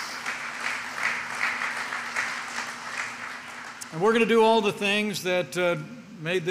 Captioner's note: applause